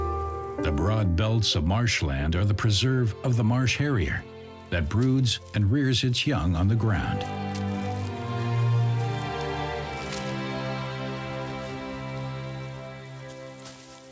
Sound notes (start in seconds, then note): none